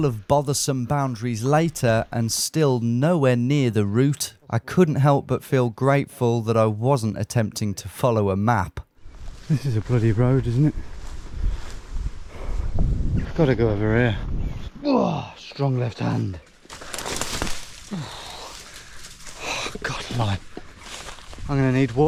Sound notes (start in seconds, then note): 17.9 grunts; 17.9 bushes rustling and crackling